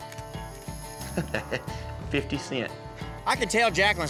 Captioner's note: chuckling